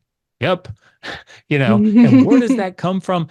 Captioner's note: chuckles